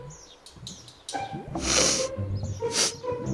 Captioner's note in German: Schniff,schniff